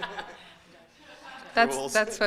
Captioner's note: laughs; laughter